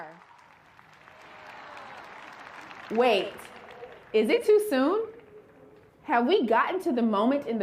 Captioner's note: applause